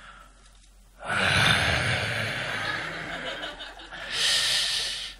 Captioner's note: sigh